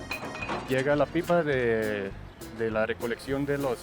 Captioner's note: speaking Spanish